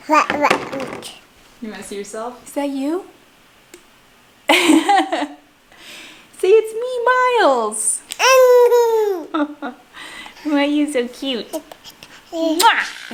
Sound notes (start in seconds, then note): 0.0 babbles; 4.5 laughs; 8.2 babbles